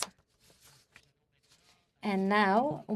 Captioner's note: speaking in French